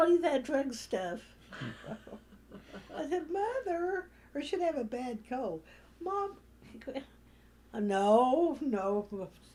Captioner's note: laughter